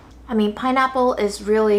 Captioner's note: none